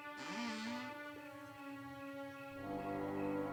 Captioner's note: door creaking; foreboding music